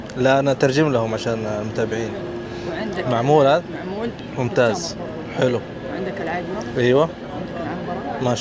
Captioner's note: Arabic